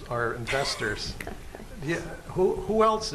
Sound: laughs

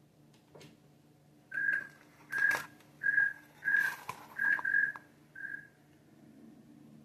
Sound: cricket sounds

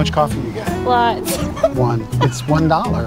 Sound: laughing

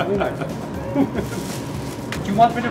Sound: laughing

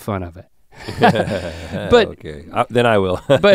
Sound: chuckles

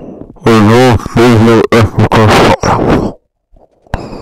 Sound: inhale; breathing

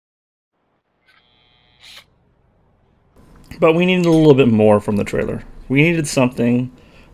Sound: sound of drill buzzing

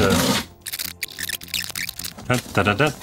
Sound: tape skipping forward

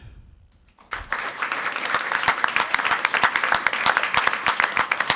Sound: crowd clapping

